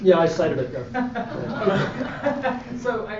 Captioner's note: audience Laughing